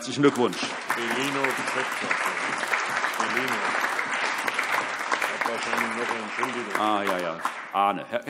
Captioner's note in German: Allgemeiner Beifall